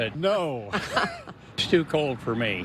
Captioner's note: laughs